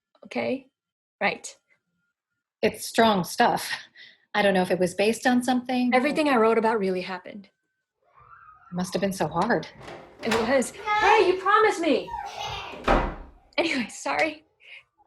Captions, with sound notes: Okay, right. It's strong stuff. I don't know if it was based on something, or... Everything I wrote about really happened. It must've been so hard. It was. [door opens] Hey, you promised me! [door closes] Anyway, sorry.